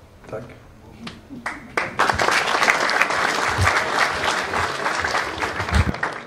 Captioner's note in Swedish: Applåder